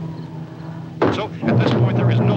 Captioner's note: radio resumes